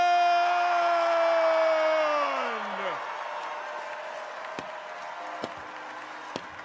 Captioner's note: audience cheers; audience applauds